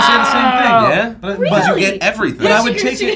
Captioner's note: groan